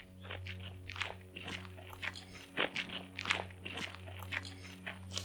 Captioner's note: approaching foot steps